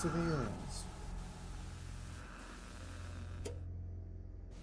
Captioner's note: static buzzing; ominous music